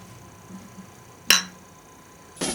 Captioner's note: bottles clink